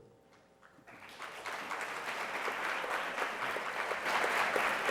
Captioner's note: applause